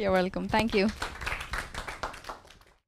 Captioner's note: audience applause